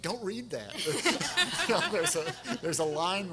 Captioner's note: everyone laughing